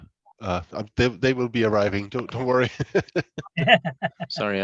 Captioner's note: laughs